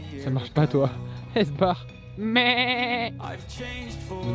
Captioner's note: supposedly better imitation of the goat; imitation of the goat